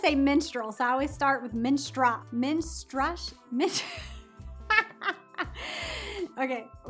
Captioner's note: laughs